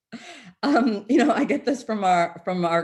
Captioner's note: chuckles